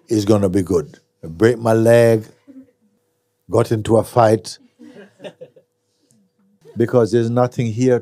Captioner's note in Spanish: risas